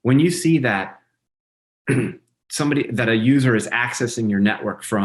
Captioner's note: throat clearing